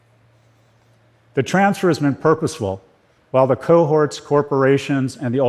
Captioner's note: none